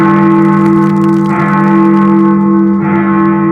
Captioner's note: bell tolling